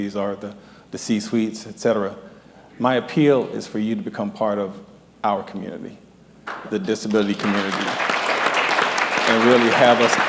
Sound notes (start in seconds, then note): 6.9 applause